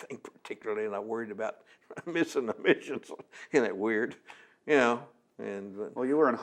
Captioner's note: laughs